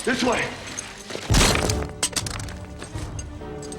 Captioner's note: bang